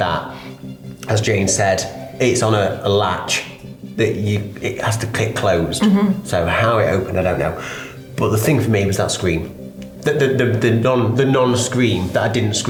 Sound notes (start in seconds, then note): none